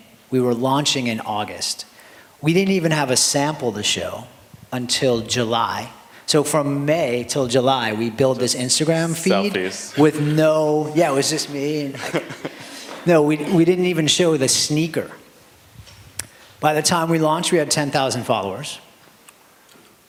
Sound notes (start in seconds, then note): 11.9 laughter